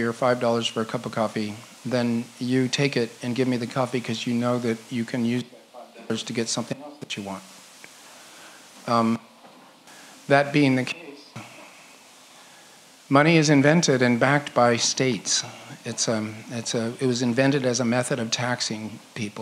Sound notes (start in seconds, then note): none